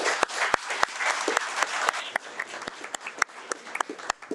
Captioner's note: audience applauding